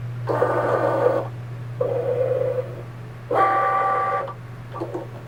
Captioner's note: machine whirring